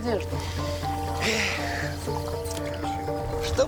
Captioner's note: sighs